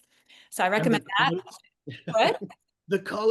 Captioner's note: laughs